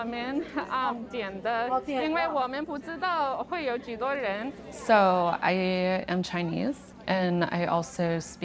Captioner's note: speaking Chinese